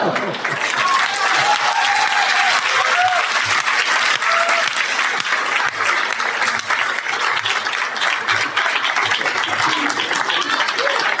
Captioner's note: appluase